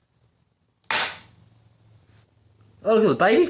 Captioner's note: broom slams floor